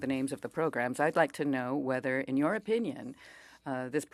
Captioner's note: speaking French